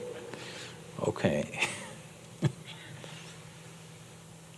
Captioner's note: laughs